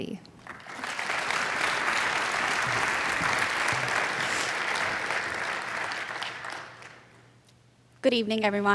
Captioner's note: applause